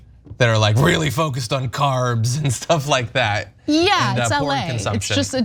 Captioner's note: laugh